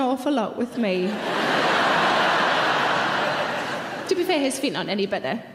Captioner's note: audience laughing loudly